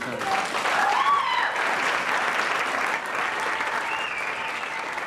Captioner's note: applause